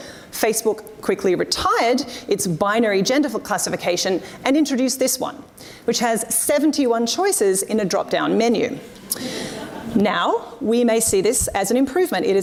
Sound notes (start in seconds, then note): 9.0 audience laughs